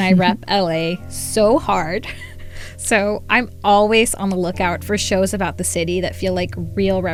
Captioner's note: laughter